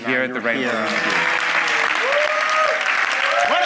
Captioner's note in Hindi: वाहवाही